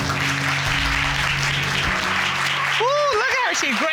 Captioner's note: applause